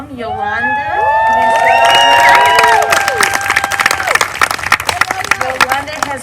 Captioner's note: applause